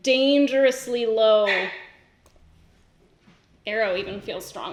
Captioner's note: dog barks